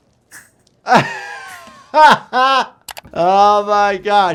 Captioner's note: inhaler hissing; doctor sighing; mouse clicking